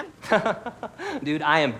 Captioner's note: laughs